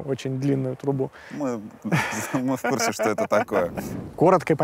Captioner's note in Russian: смеётся